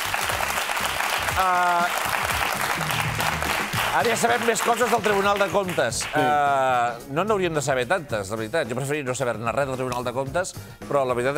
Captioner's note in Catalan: aplaudiments